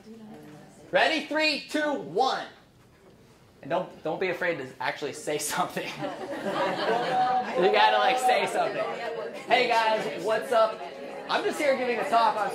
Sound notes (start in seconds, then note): 5.8 laughing